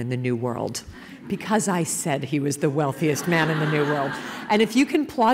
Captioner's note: laughter